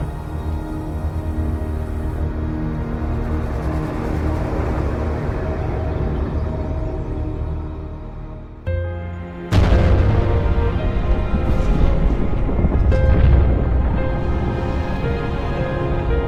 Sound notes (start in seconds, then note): 8.4 calm piano music; 9.5 explosion